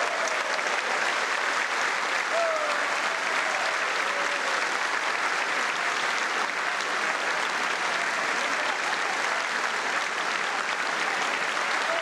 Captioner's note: applause